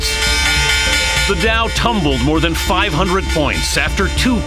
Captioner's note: bell ringing